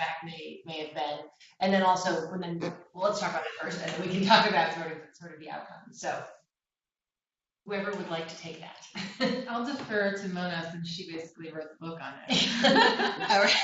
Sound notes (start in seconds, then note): 3.5 laughter; 12.3 laughter